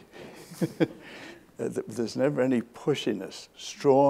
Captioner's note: laughs